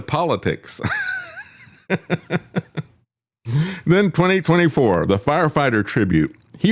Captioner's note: laughs